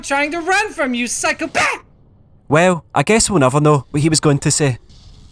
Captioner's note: lets out scream as the beam hits him